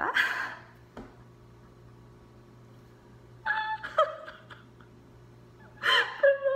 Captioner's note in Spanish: llorando de felicidad